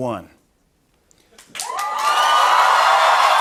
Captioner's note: cheers and applause